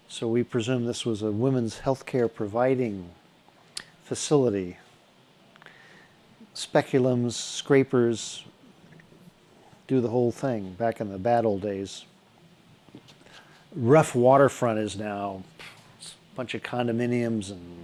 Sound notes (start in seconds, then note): none